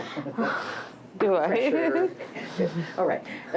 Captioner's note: laughs